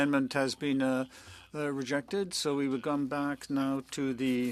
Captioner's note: speaking French